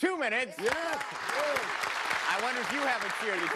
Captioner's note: applause